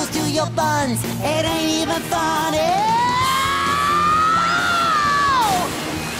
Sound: screaming

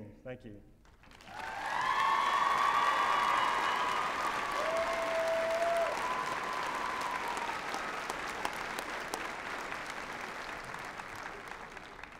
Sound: applause and cheering

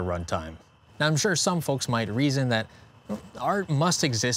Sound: crickets

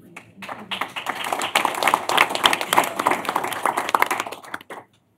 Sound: applause

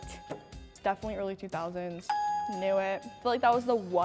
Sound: ding; ding

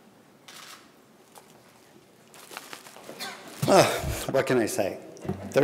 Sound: camera shutter clicks

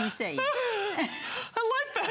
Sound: laughter

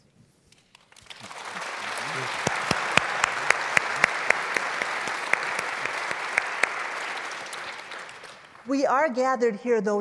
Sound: applause

